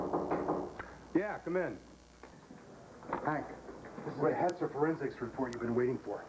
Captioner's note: knock on door